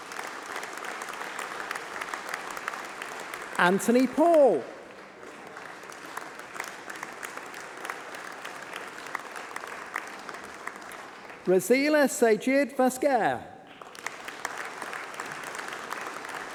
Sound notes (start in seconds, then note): 3.5 applause